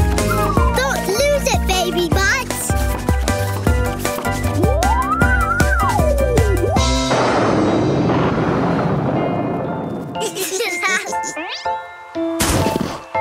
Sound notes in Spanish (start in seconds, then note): 7.0 trueno; 10.2 risitas